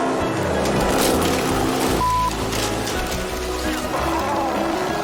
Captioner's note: branches cracking